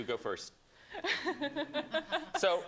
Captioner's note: laughter